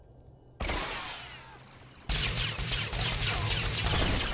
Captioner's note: gunshots